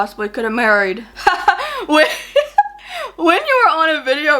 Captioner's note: laughs